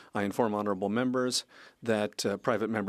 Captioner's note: speaking French